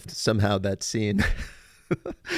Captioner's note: laughs